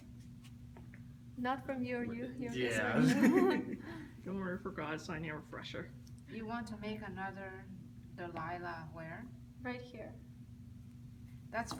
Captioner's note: audience responding